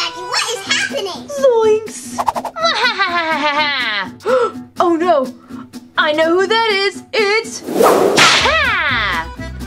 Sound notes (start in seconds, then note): 2.6 evil laughing; 4.3 gasps